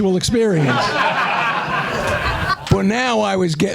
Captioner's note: laughter